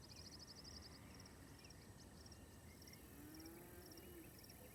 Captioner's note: cows lowing